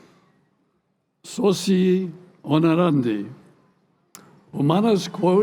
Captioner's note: speaking latin